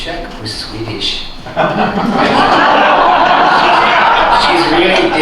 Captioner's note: laughter